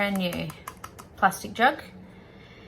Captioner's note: fingernails tap on jug